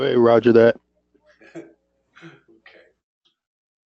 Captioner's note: laugh